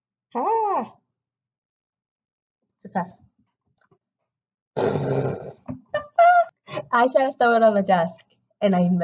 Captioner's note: blows raspberry and laughs